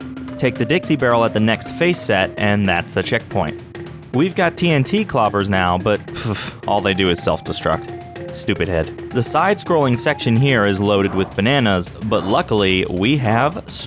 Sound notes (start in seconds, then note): 6.0 pffft